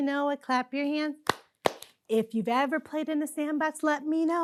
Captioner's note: clapping